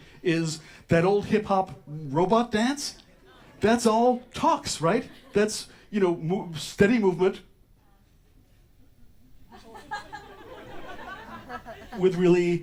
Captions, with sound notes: is that old hip-hop robot dance. That's all tocs, right? That's, you know, steady movement [Scattered audience laughter]